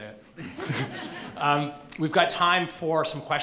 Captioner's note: laughing